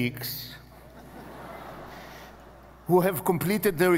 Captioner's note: audience laughing